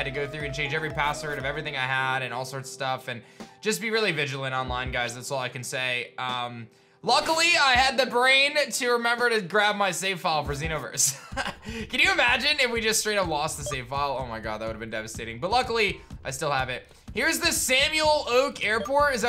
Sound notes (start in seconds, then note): 11.1 chuckles